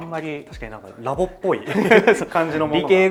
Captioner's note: laughs